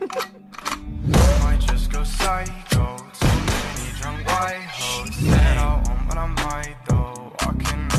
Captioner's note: TikTok video plays